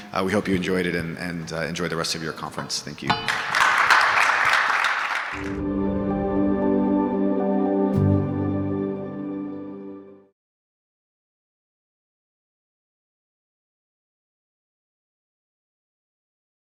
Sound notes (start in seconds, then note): 3.1 audience applauding; 6.1 logo chimes